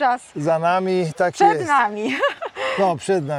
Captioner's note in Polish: śmiech